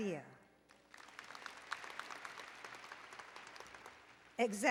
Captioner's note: applause